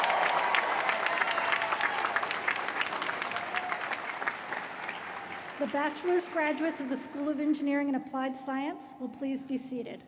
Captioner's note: cheers & applause